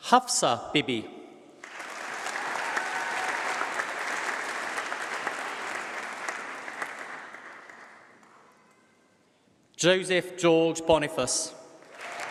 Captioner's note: applause; applause